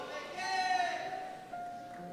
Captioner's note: shout